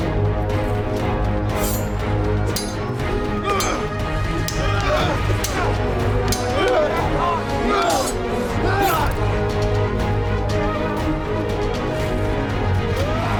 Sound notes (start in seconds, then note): 0.1 dramatic music; 2.4 swords clanging; 7.5 dramatic music